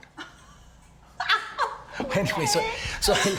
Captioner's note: Cassidy laughing